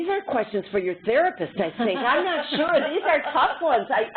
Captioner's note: laughter